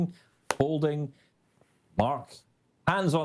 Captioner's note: phone folds